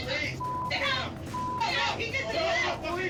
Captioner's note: overlapping shouting, cursing